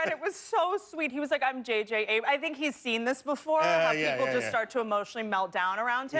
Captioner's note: laughter